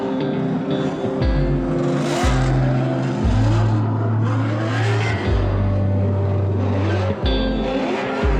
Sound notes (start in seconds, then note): 0.0 engines revving; 0.0 guitar music